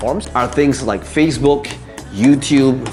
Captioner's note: marker tapping